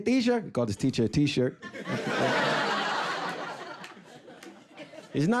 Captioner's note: audience laughing